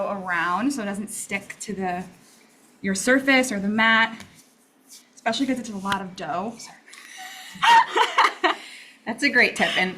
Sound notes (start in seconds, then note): 7.3 both laugh